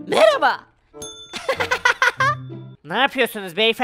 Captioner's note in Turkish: Gülme sesi